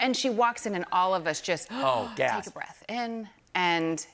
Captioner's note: gasps